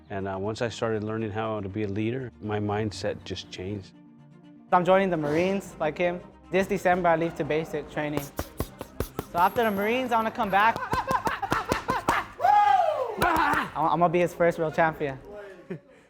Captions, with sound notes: And once I started learning how to be a leader, my mindset just changed. - I'm joining the Marines, like him. This December, I leave for basic training. So, after the Marines, I want to come back. (shouting) (mitts boxing) I'm going to be his first real champion.